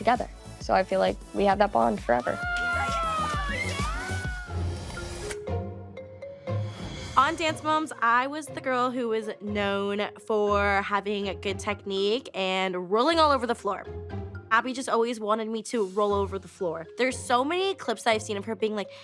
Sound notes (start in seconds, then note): 2.2 all cheering; 4.3 upbeat music playing